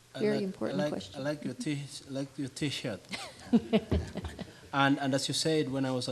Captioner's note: audience chuckling